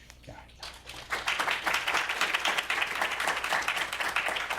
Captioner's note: applause